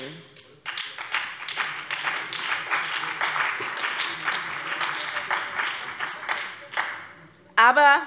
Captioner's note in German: Beifall BÜNDNIS 90/DIE GRÜNEN und vereinzelt SPD